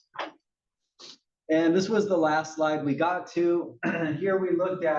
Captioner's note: cough